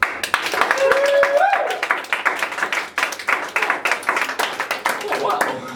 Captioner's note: applause